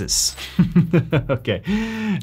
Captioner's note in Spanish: Risas